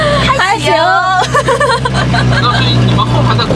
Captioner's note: ha ha ha ha ha ha